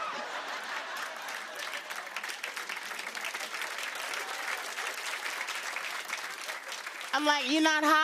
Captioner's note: laughter and applause